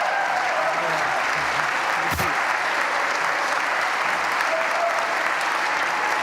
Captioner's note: applause